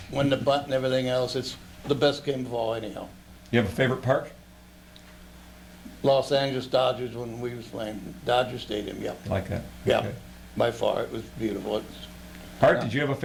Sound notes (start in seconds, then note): none